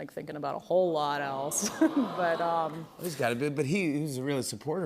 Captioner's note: crowd awws